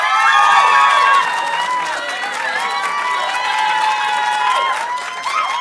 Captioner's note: audience cheering and applauding